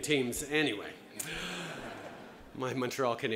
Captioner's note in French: Rires